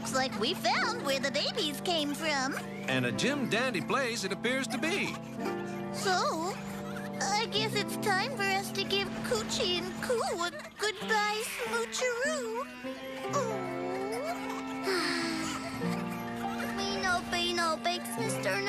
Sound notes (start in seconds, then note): 12.9 sisighghss; 14.8 bobothth s sigigh